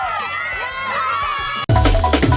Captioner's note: cheering